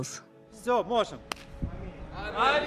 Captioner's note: speaking Ukrainian